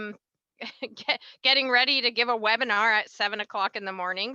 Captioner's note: laughs